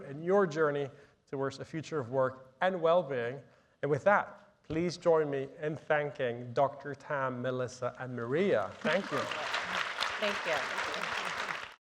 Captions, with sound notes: in your journey towards the future of work and wellbeing. And with that, please join me in thanking Dr. Tam, Melissa, and Maria. Thank you. - Thank you. (audience applauding)